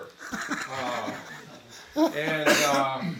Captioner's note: attendees laughing